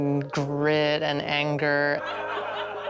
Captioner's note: laughter